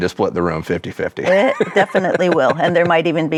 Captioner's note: laughs